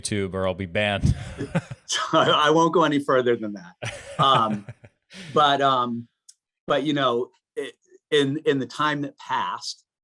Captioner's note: chuckles